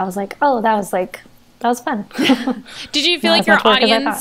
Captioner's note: they laugh